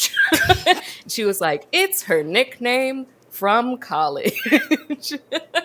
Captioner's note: both laugh; laughs